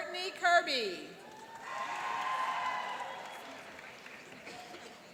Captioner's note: cheering and applauding